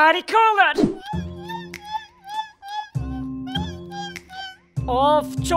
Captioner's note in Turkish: Yemek yeme sesi